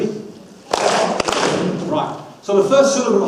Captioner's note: audience claps